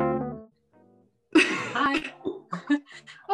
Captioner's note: laughs